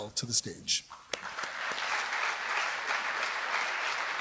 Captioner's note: applause